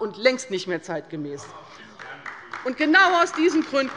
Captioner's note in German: Beifall bei der LINKEN